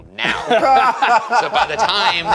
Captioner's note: laughing